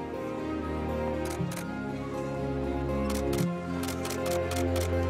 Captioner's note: camera clicks